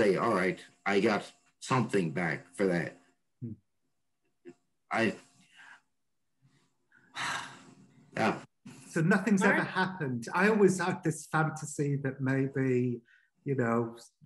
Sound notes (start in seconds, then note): 7.1 sighs